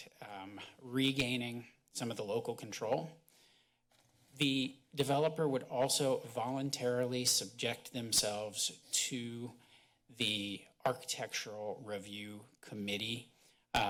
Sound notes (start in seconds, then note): 3.0 pause